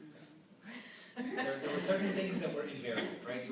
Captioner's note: laughter